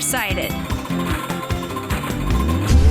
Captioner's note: bell ringing